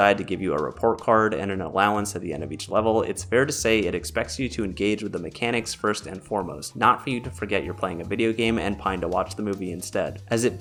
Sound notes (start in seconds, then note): none